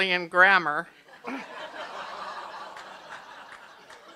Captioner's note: laughter